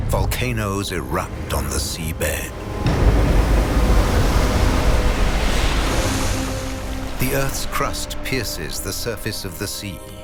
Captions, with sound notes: volcanoes erupt on the seabed. (dramatic music continues) (waves crashing) The Earth's crust pierces the surface of the sea.